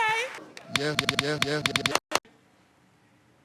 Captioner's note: Steve claps a little tune